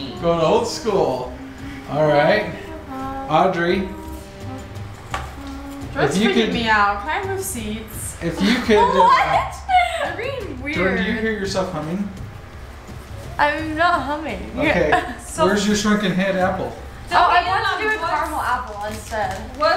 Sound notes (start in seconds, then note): 5.2 hums; 8.2 laughs